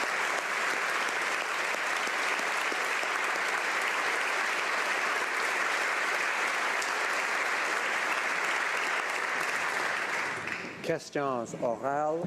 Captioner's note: applause